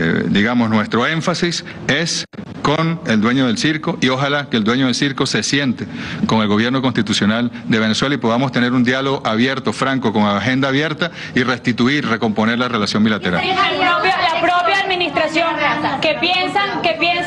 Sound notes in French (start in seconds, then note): 14.8 plusieurs voix